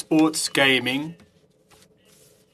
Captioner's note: speaking French